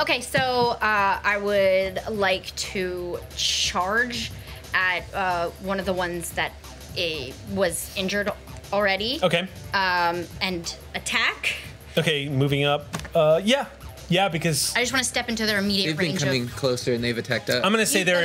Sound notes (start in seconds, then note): none